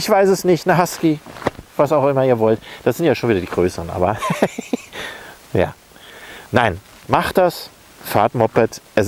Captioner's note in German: lacht